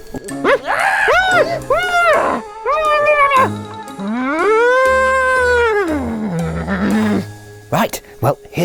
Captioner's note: puppet shrieks